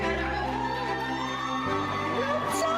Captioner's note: everyone cheering